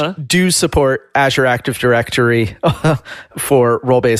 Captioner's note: laughs